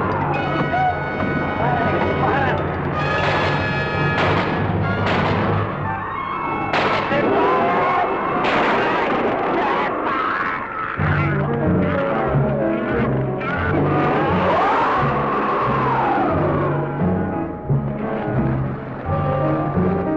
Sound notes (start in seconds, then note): 0.0 people screaming; 0.2 bullets firing; 6.2 intense instrumental music; 10.9 creature roaring